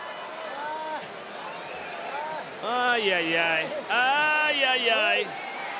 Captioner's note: applause